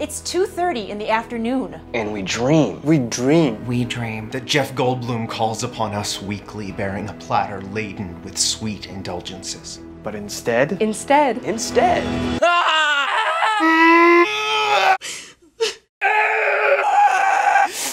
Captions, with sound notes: - It's 2:30 in the afternoon. - And we dream-- - We dream-- - That Jeff Goldblum calls upon us weekly bearing a platter laden with sweet indulgences. - But instead, - Instead, - Instead, - (screams) - (sobs) - (screams)